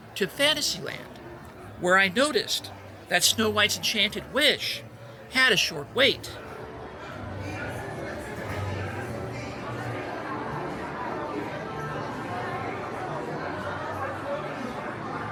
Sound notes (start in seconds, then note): none